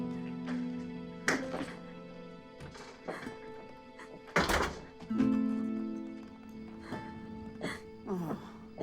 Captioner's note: crying